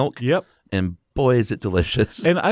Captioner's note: voiceover